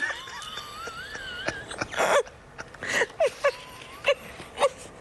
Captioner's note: laughter